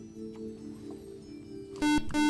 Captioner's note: buzzer